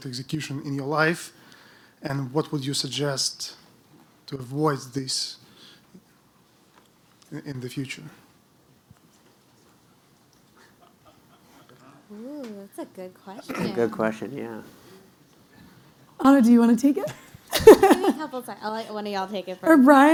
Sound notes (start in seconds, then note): 17.4 laughs